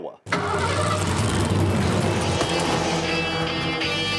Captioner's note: engine revving; rock music